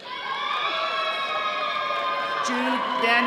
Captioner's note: all cheering